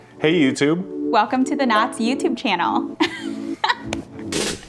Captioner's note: laughing; upbeat music